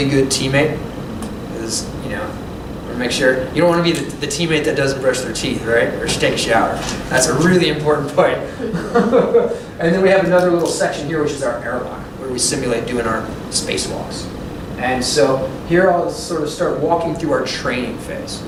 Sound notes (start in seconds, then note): 8.5 laughter